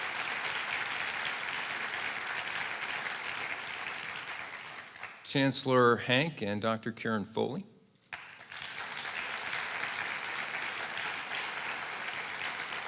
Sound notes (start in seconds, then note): 3.2 applause